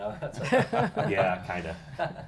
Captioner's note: laughing